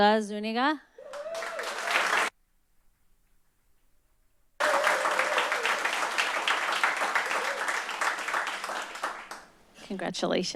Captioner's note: applause